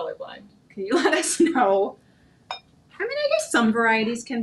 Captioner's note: chuckling